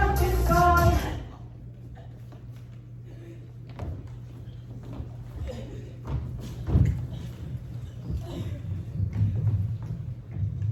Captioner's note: William chokes on his blood